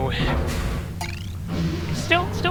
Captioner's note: chirp clank